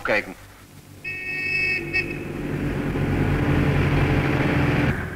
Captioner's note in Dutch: er wordt getoeterd / geluid van autobus